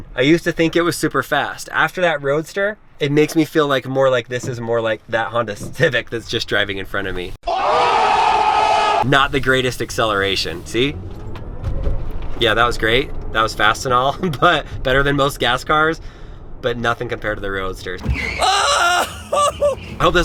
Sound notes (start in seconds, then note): 7.4 crowd yells; 11.0 acceleration strains; 18.0 yells